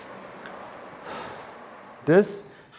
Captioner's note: blowing